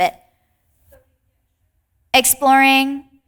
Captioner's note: participant faintly speaking